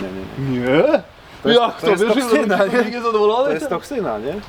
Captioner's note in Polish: śmiech